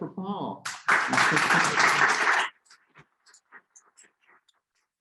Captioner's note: audience applauding